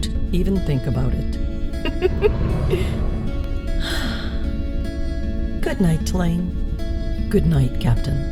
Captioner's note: giggle, sigh